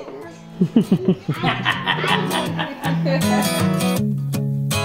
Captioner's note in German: Gelächter